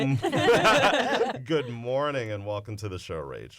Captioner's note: laughter